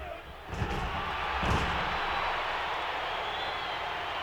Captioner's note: audience cheering